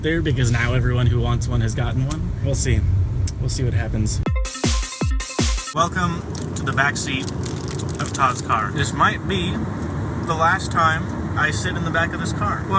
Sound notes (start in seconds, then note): 4.2 fast paced transition music; 6.2 while chewing